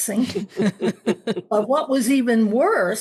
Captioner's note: laughing